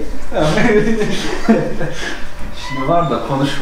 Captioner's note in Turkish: Gülüşmeler